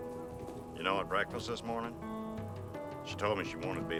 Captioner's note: wind howling